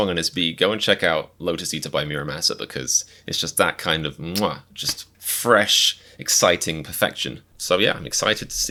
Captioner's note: mwah